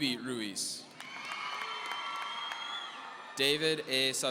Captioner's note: audience cheering